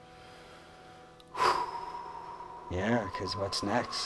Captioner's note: exhales